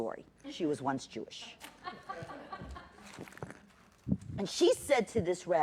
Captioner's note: laughter